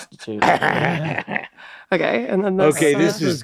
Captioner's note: Danny laughs loudly